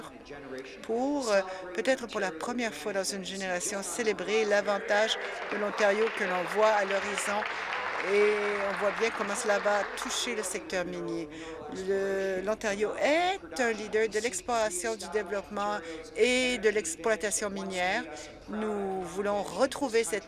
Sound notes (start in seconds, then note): 9.9 applause